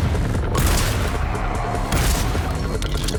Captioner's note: shotgun booms